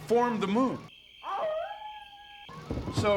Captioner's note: <i> howling</i>